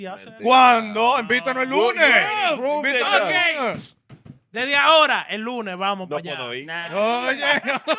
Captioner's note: speaking In Foreign Language